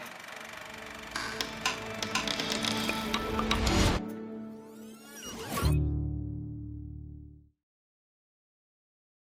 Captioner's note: reel rattles